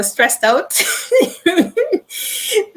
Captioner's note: laughing